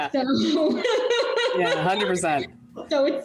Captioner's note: laughing